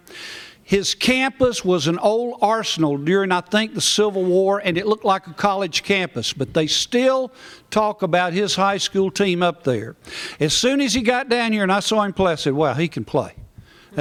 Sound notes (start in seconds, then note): none